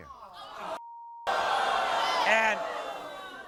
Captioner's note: audience groans